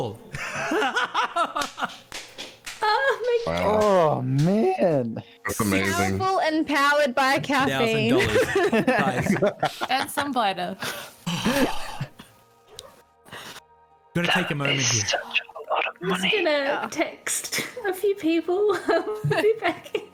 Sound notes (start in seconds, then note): 0.5 delighted laughter and clapping; 10.8 satisfied breath; 15.7 whisper